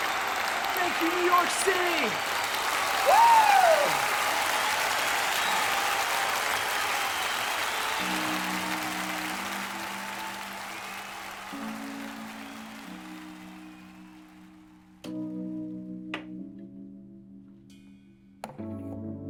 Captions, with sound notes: Thank you, New York City. Woo! (imaginary audience applauding and cheering) (gentle stirring music)